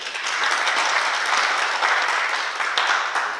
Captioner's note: oklaski